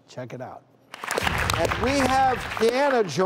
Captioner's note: audience claps